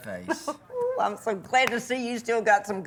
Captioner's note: laughing